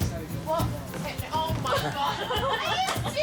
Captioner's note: laughter